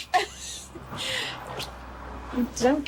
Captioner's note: Margaret laughing